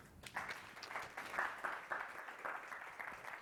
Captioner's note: applause